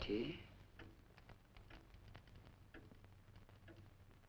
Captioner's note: clock ticking